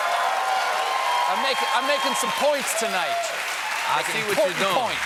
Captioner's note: cheers and applause